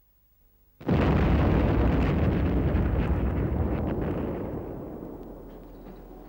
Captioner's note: explosion